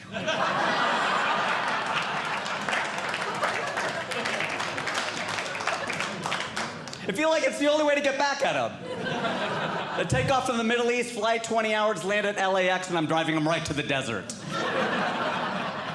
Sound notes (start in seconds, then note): 0.0 audience Laughing; 3.2 audience Clapping; 8.7 audience Laughing; 14.4 audience Laughing